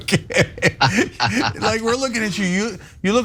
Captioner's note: laugh